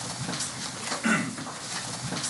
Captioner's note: clears throat